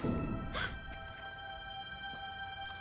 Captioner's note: gasps